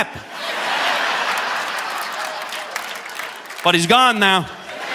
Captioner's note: audience laughing